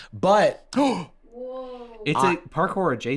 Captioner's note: gasps